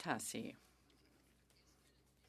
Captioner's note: speaking French